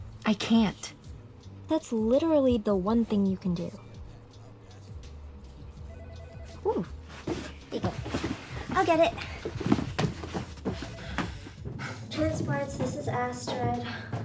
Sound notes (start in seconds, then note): 5.9 phone rings